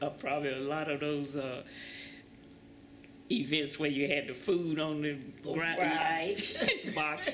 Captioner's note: laughter